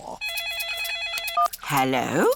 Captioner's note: phone rings